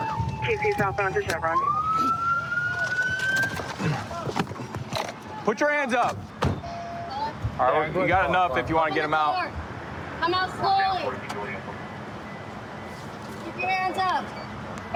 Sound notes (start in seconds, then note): 1.7 sirens